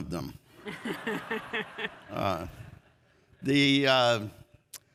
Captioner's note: audience laughs